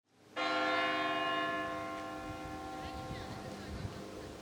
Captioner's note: bells tolling